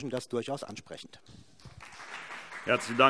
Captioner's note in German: Beifall BÜNDNIS 90/DIE GRÜNEN